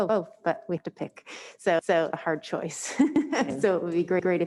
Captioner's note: she laughs